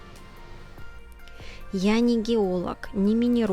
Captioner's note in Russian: закадровый голос